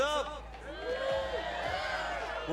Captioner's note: employees cheering